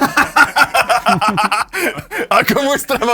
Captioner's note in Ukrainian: сміх